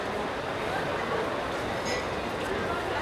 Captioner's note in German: Stimmengewirr im Hintergrund